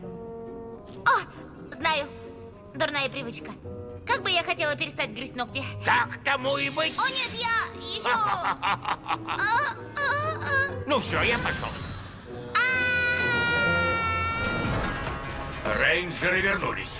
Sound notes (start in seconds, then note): 7.9 laughs